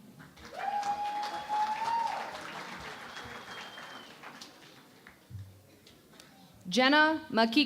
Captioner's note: cheering and Applause